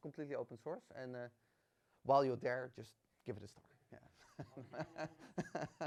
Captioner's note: laughs